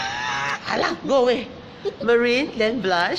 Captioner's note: screams